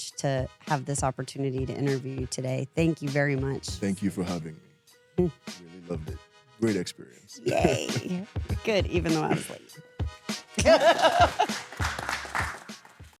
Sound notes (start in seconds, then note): 10.6 laughs; 10.6 audience clapping